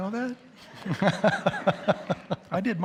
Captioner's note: audience laughs